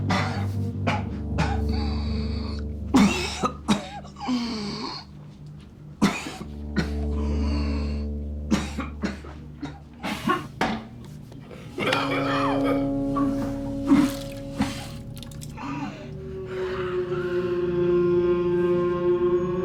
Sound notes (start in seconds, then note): 0.0 Rico coughing and wheezing; 11.8 Rico coughing; 16.9 tense music